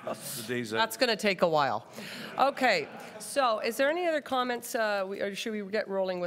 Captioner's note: laughter